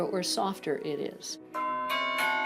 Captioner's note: bells